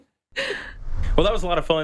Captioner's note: graphic whooshes